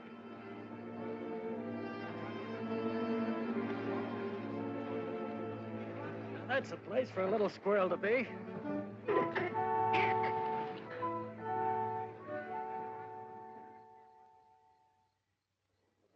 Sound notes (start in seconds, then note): 0.3 somber music; 9.0 Rupert chitters; 11.0 whimsical music